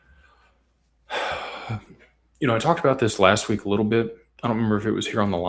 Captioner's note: sighs and gasps